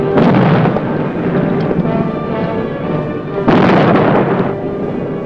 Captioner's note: bombs exploding